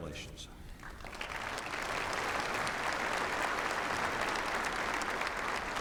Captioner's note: applause